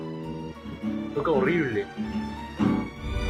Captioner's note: whispers